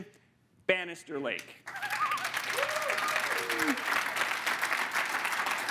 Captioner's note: audience applauding